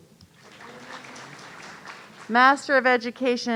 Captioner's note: audience applauding